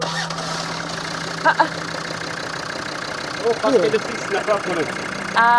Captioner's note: vehicle engine whirring